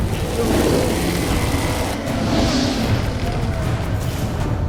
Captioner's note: flames crackle; groan